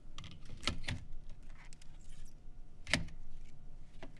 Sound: none

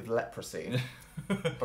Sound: laughs

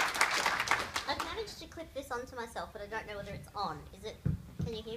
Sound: applause from audience

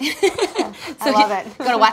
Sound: laughter

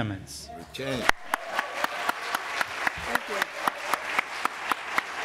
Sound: applause

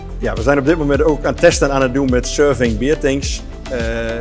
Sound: speaking in Dutch

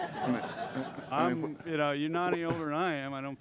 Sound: laughter

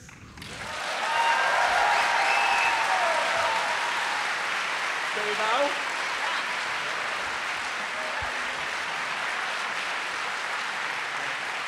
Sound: applause

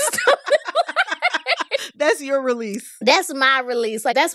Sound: laughter

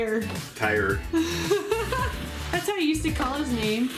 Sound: laughs

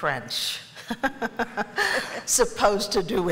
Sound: laughter

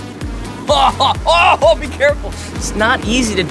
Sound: chuckles

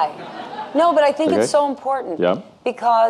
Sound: audience laughing

